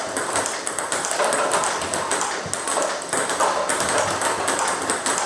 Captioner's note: ball ping pong hitting continues